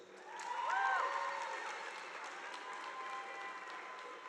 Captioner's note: audience applauding